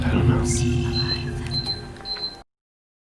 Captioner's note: beeping